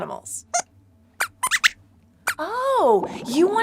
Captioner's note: squeaks squeaks